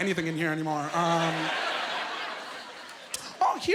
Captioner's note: laughing